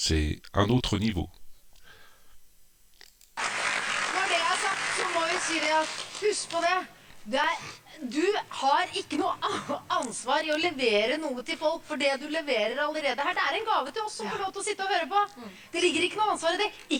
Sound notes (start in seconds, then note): 8.1 applause